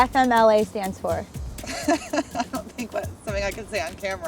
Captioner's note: laughs